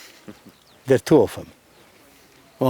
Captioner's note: laughs